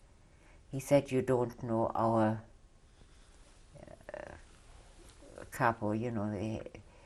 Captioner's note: pauses for 3 seconds